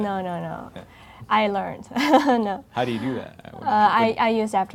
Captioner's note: laughing